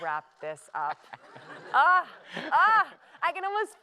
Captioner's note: laughter